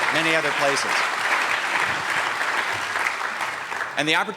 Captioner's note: applause